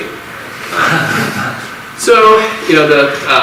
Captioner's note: audience laughs